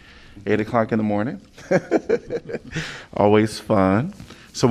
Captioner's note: laughter